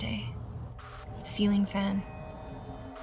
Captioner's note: static crackles